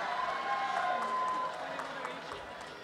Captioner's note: cheering and applause